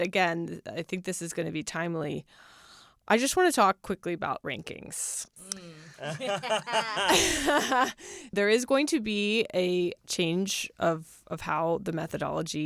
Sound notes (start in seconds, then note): 5.9 laughter